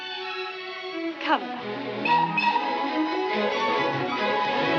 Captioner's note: train whistle toots